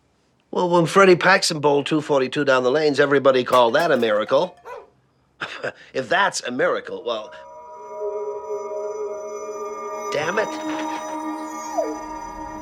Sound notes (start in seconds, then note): 3.5 clatter; 4.6 barking; 11.0 whimpering